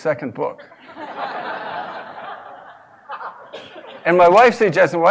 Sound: laugh

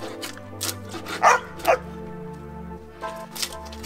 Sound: dog Barking

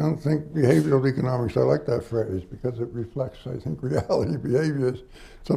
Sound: laughs

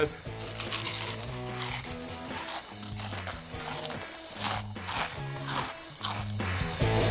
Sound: loud munching; punk rock music

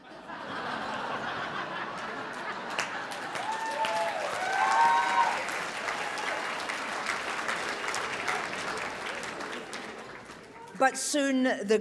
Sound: laughs and cheers

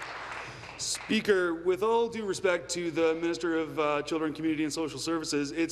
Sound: applause

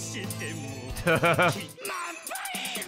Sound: laughs

